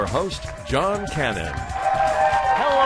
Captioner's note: cheering